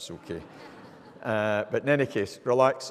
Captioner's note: audience laughing